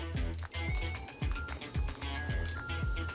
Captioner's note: oven timer goes off 🔔